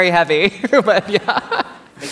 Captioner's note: laughter